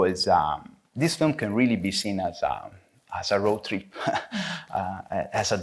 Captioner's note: chuckles